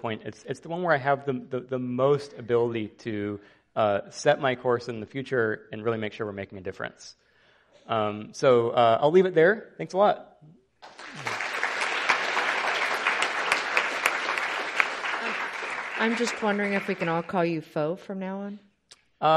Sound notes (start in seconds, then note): 10.8 audience applauding